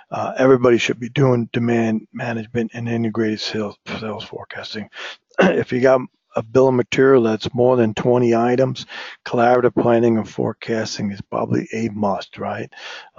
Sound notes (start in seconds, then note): 5.3 cough